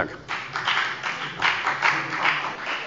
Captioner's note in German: Beifall bei der FDP